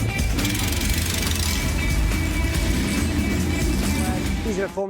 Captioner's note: engine growling